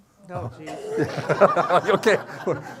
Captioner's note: everyone laughing